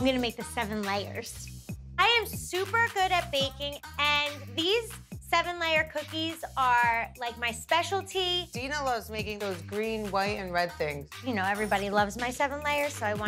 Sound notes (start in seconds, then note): none